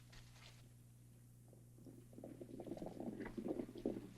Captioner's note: horses galloping